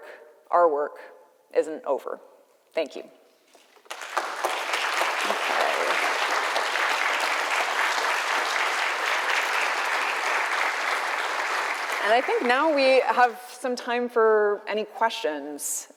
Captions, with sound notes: Their work, our work isn't over. Thank you. [ Applause ] Okay. [ Applause ] And I think now we have some time for any questions,